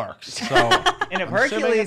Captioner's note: laughing